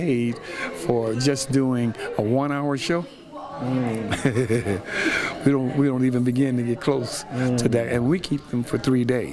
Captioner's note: laughs